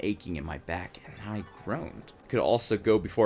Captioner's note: dreamy sound effect